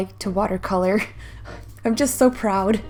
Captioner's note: sighs